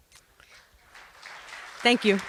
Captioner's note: applause